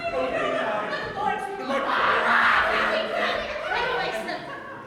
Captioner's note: chatter excitedly with a few screams